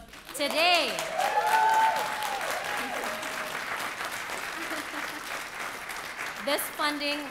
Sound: audience clapping

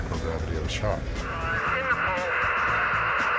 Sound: aircraft noise

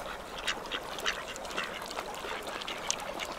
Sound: ducks quacking

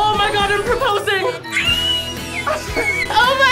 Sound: screams

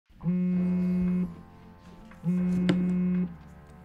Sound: phone buzzing

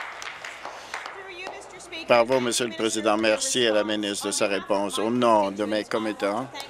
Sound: applause

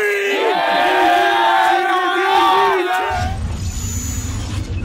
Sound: cheering

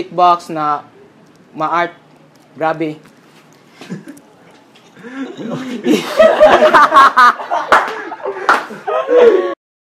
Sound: laugh background

